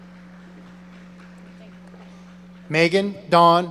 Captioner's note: audience applauding